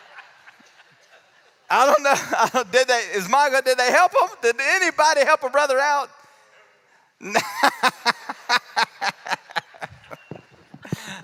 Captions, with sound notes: I don't know--did they help him? Did anybody help a brother out? (laughs) Oh, goodness.